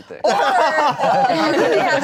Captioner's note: everyone laughing